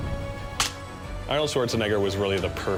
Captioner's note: slaps